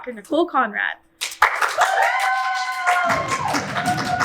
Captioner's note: audience cheers